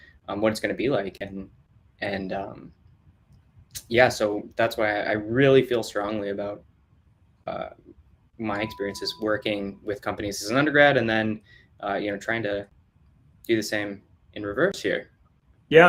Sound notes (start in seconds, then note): none